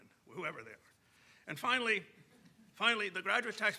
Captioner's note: audience chuckling